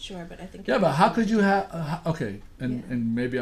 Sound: voiceover

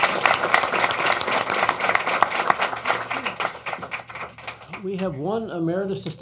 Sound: applause

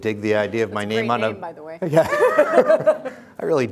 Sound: laughs

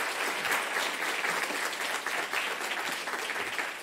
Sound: applause

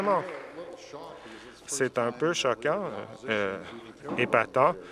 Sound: applause

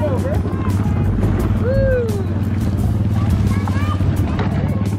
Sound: engine roaring

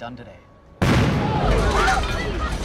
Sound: explosion

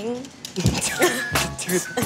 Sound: laughing

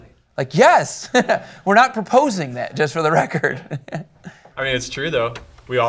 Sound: chuckles

